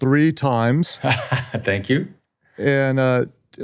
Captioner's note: laughs